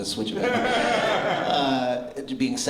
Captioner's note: laughter